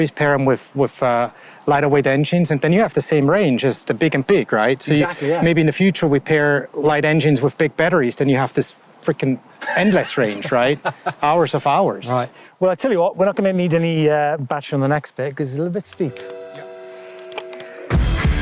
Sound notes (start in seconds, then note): 9.6 laughs